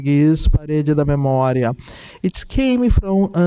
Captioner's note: speaking in Portuguese